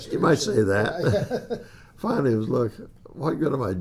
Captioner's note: laughs